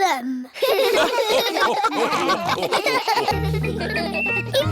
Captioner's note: all laugh